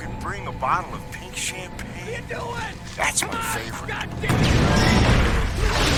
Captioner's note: explosion